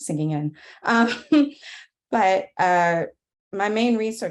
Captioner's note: laughs